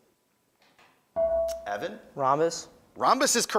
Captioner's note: beeping